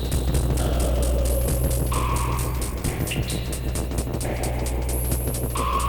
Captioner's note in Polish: Miarowe, odległe, opadające i wznoszące się szumy